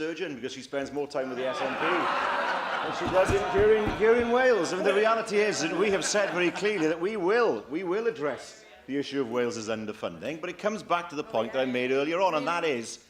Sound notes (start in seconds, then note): 4.8 laughter